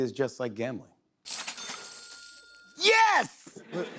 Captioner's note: cash register dings